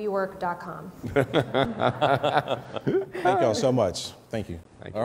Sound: laughing

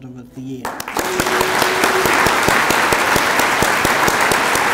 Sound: applause

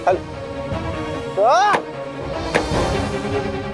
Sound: screams

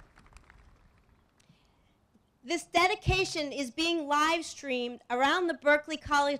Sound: applause

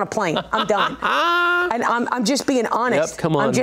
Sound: laughs

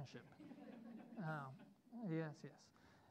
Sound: students laughing

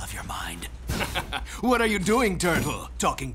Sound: chuckles

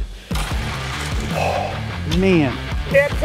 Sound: exhaling

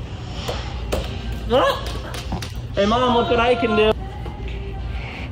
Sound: yells

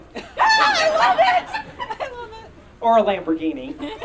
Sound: audience Laughing

